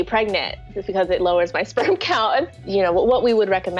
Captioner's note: laughs